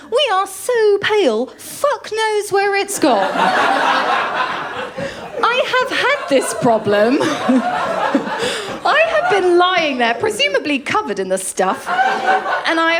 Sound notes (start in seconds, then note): 3.0 laughter; 11.7 laughter